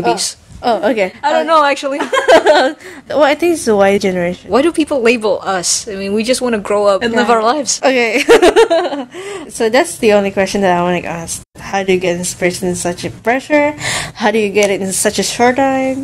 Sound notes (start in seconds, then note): 2.0 laughs from embarrassment; 8.0 laughs